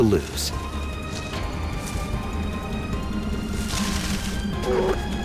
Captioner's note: bears groaning; bears whining